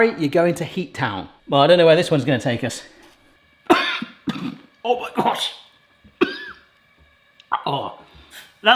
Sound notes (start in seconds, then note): 6.1 coughing; 6.1 coughs